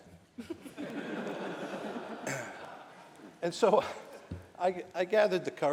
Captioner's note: laughter